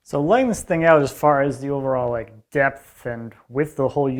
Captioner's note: none